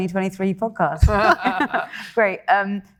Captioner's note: group laughing